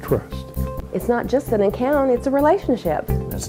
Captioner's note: voiceover